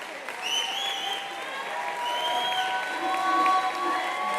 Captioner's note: attendee whistling